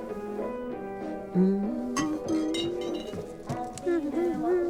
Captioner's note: humming along